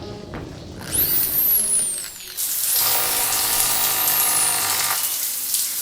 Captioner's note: drill whirring